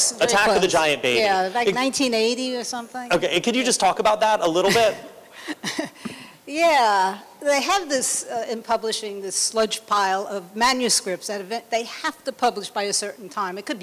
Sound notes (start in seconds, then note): 5.4 laughter